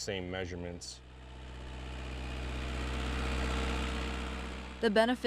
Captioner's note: engine humming